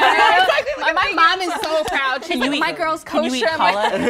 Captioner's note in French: rires